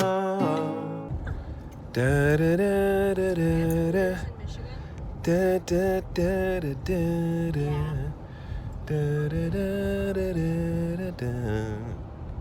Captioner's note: "duh-duh"s as he drives